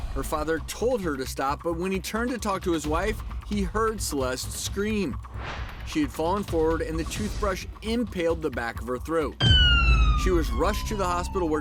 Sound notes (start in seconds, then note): 9.4 sirens blaring